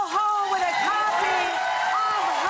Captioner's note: audience clapping